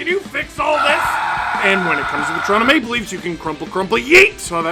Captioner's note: screaming